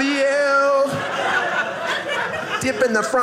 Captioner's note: audience laughing